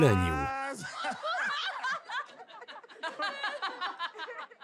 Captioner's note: laughing